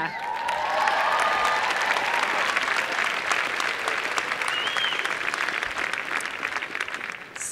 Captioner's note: applause and cheering